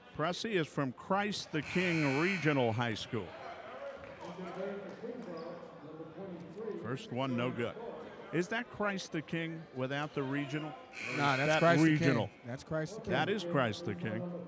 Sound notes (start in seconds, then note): 3.3 yelling; 3.9 clapping